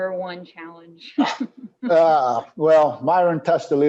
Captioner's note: laughs